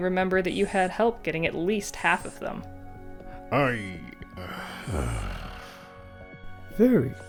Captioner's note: Tahu grumbles